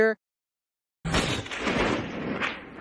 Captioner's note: bang!